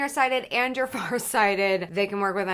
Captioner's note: chuckles